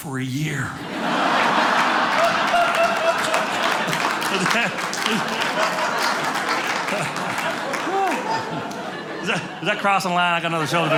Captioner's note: audience laughing